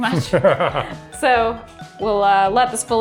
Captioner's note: laughs